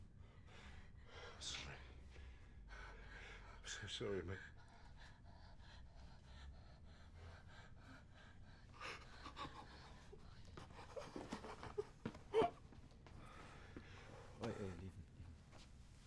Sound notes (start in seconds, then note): 9.1 crying